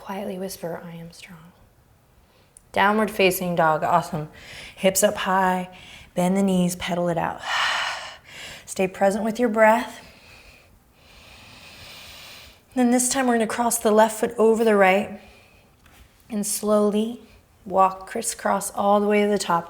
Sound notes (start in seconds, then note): 7.4 exhaling